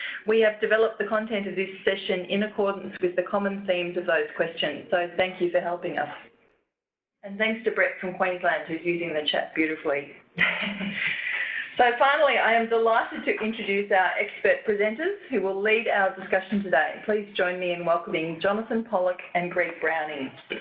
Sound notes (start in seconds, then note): 10.4 laughs